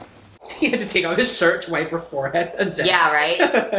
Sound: laughs

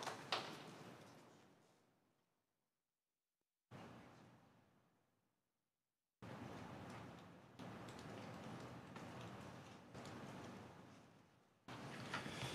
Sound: applause

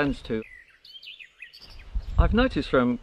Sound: birds chirping

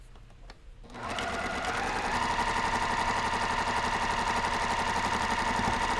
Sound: sewing machine whirring

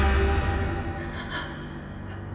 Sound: gasp

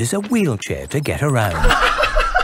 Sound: laughs

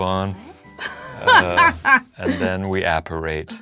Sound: laughs

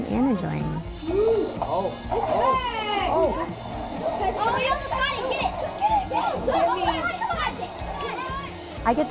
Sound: kids cheering

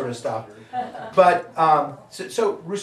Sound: audience laughing

